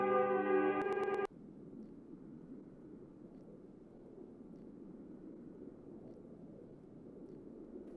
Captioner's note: winter ambience